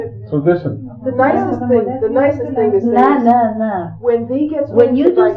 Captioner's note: speaking in Farsi